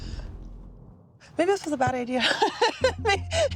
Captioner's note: laughs